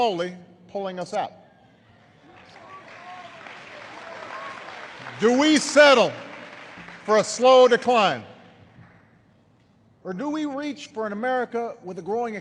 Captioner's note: applause